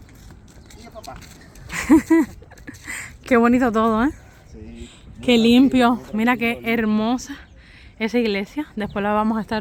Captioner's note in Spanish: risas